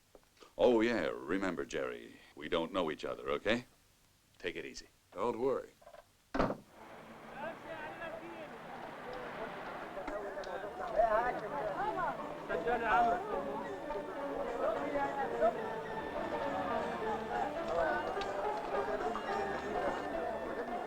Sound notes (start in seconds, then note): 7.4 chatter; 11.9 lively music